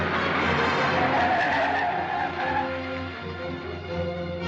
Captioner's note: tires screeching